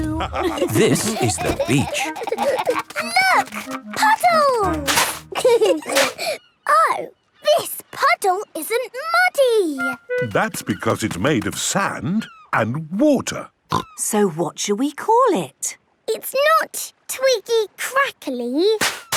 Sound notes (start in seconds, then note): 0.0 laughter; 2.7 giggling; 5.3 laughter; 13.9 snorting